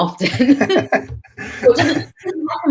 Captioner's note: laughing